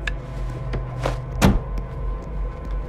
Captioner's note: tense music; trunks slams; tense music